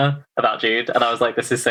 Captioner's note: laughs